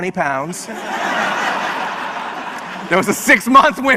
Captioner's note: audience laughs